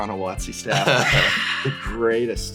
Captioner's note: laughs; sighs